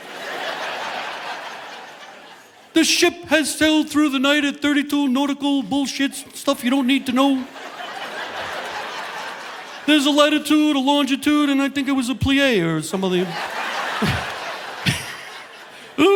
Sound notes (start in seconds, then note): 0.0 audience laughing; 7.2 audience laughing; 13.0 audience laughing; 13.9 chuckles